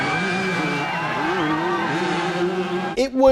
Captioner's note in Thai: การเร่งเครื่องยนต์